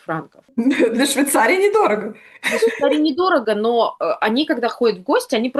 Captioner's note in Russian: смех